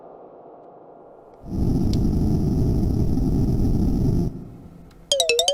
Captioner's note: friction sound; menu sound effects